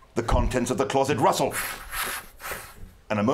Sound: rustling sounds

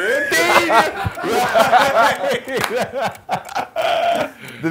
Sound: men laughing

